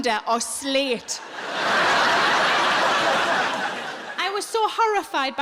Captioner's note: audience laughing